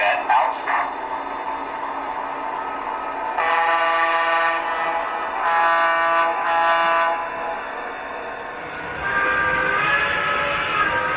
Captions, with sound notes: - [Voiceover] Roger that, out. (horn blares)